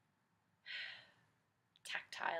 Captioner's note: sigh